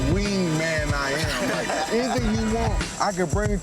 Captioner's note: people laughing